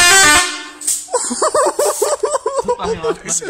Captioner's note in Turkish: acaip bir şekilde gülüyor